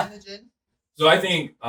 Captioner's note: laughing